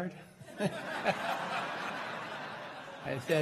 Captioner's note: crowd laughing